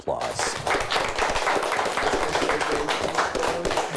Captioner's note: clapping